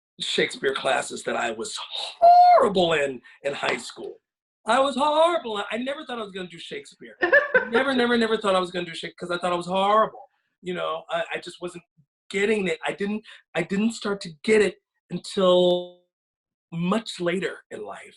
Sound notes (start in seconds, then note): 7.2 laughs